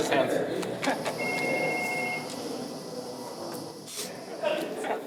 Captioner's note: phone ringing